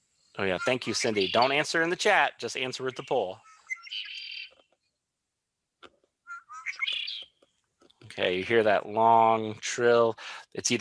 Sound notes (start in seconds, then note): 4.8 bird squeaking